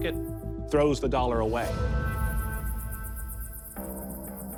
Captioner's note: insects chirring